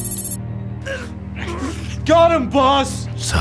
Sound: grunts

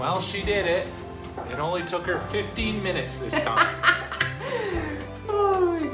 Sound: laughs

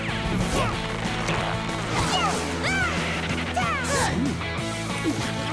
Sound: grunting

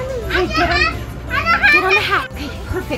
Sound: children scream

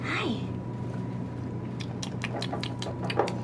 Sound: making chewing sounds

